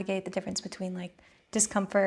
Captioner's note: none